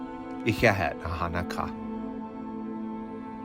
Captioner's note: bird speaking in a foreign language; soft music